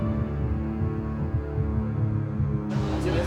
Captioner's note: heartbeat thudding; man speaking in foreign language